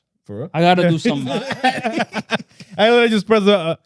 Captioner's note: laughing